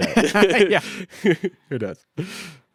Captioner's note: both laughing